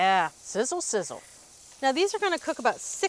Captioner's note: steaks sizzling